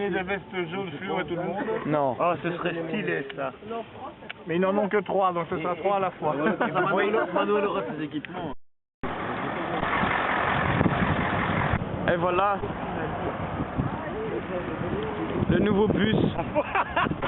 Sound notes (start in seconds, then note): 6.4 laugh